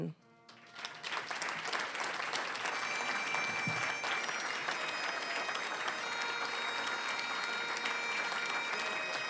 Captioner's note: applause